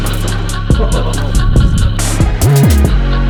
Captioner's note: dramatic music; man laughing; dramatic music